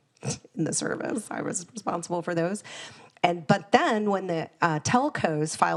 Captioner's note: chuckles